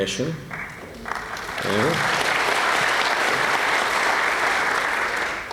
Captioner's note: applause